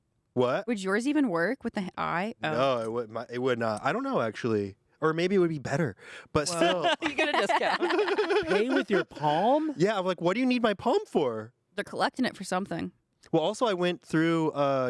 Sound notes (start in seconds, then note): 6.4 everyone laughs